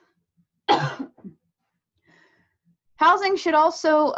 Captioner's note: coughs